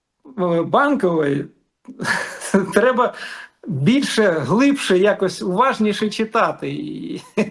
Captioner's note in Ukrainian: сміх